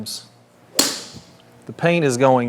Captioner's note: tee clinks